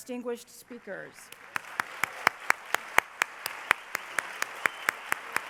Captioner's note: applause